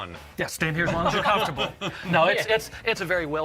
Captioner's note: laughter